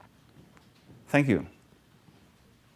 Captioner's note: pause